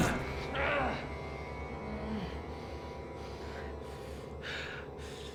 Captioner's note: breathing heavily